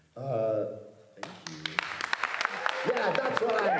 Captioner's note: applause